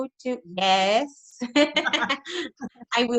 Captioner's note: laughs